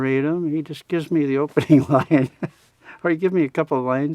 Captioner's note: laughs